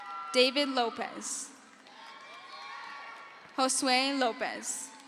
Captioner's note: crowd cheers